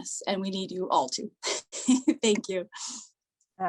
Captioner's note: laughter